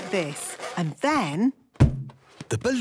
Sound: balloon rubbing; balloon echoes

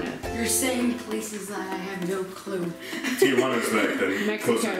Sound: laughs

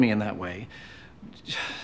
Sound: sigh

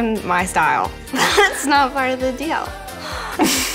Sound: laughs

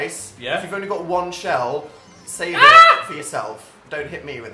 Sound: high pitch screams

